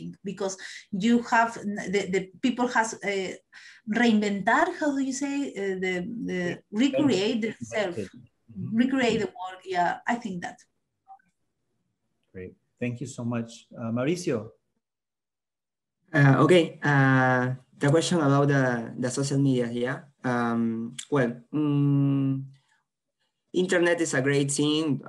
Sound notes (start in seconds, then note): 3.8 spanish